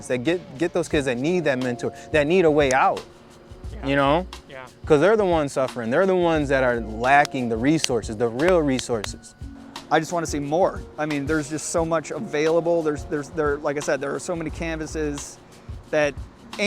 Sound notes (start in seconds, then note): 3.3 claps; 4.7 male Voice; 8.4 claps